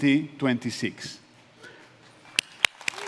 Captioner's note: applause